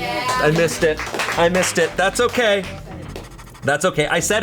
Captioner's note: colleagues applauding